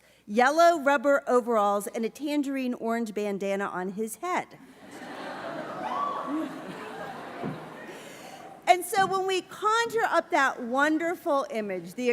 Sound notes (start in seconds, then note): 4.7 laughter